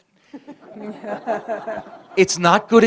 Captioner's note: laughter